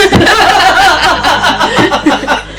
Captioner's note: laughter